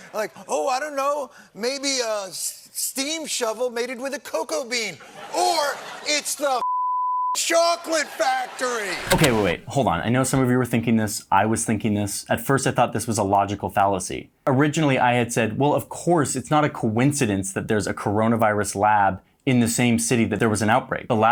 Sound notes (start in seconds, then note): 6.6 beep; 7.9 audience laughs